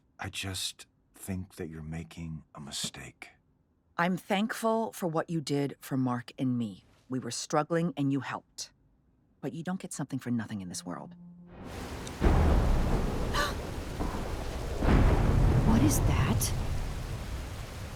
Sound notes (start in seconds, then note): 11.6 sky rumbles; 13.3 Eve gasps